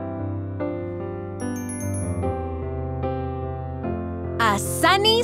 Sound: bell chimes

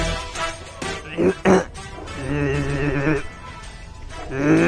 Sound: clearing throat

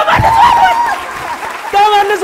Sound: scream and applause

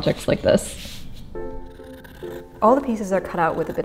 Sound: classical music; scissors grating

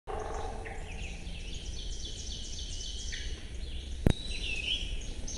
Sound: bird song plays

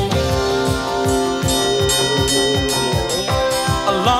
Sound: bell clanging

